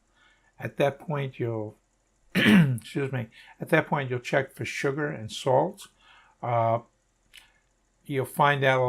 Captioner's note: cough